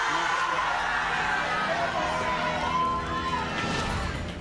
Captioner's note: audience cheers